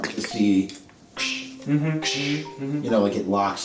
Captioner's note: mimicking gas canister pressure noise with mouth